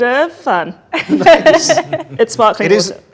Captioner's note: group laughs